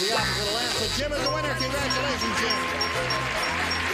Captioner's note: bell dinging; applause